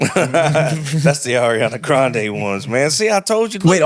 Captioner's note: laughing